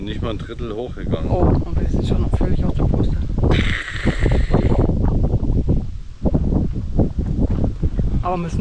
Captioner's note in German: lachen